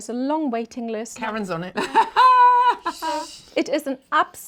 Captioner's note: laughs